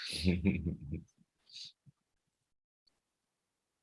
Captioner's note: chuckles